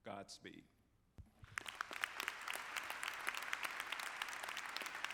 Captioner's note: audience clapping